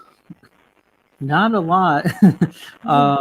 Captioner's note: chuckles